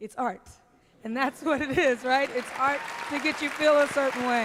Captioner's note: applause